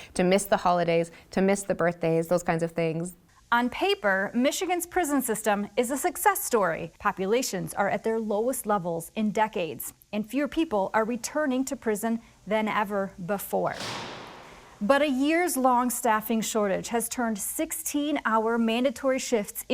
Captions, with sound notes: to miss the holidays, to miss the birthdays, those kinds of things. - On paper, Michigan's prison system is a success story. Populations are at their lowest levels in decades, and fewer people are returning to prison than ever before. (doors clanking) But a year's long staffing shortage has turned 16-hour mandatory shifts